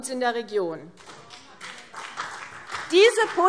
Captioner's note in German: Beifall CDU und BÜNDNIS 90/DIE GRÜNEN